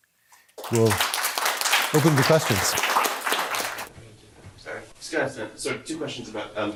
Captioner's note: audience applauds